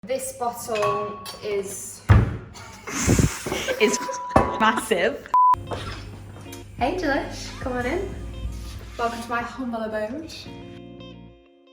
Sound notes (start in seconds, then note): 2.2 bang; 2.8 laughing